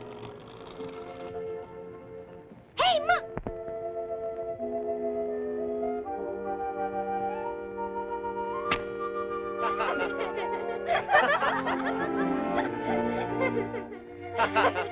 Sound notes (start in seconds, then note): 9.6 laughter